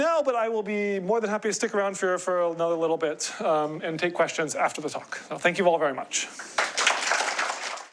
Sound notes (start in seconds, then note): 6.4 applause